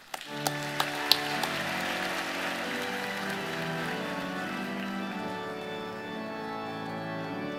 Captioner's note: applause